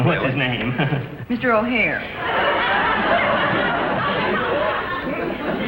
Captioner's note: audience laughs